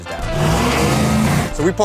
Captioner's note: engine revving